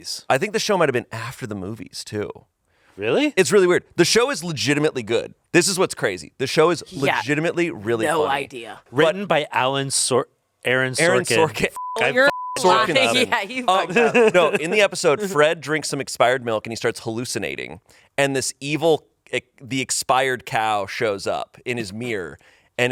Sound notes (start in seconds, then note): 11.2 beep; 13.7 laughs